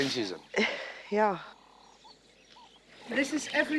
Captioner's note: sighs